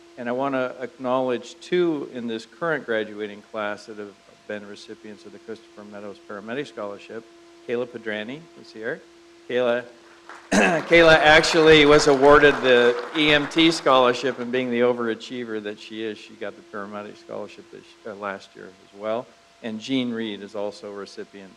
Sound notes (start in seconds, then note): 12.9 crowd applauds